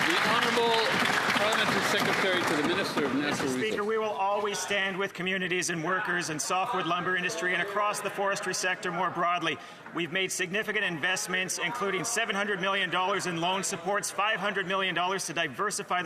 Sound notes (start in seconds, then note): 4.2 some Applause